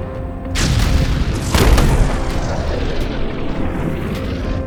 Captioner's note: rocket exploding